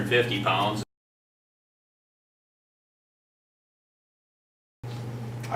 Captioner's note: silence